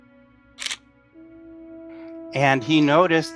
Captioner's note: camera clicking